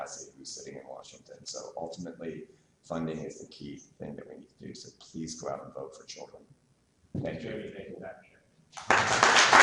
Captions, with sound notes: who's sitting in Washington, so ultimately funding is the key thing that we need to do so, please go out and vote for children. Thank you. [Applause]